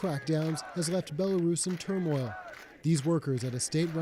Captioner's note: chanting